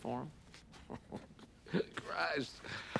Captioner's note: chuckling